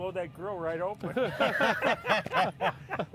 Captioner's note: men laughing